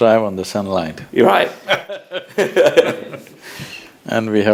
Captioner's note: both Laugh